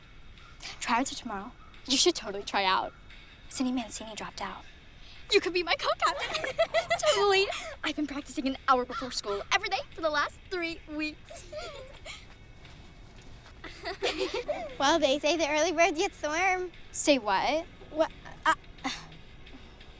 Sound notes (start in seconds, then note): 6.1 Lynne giggling; 13.6 both giggling